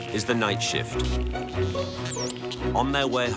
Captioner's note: dolphins whistling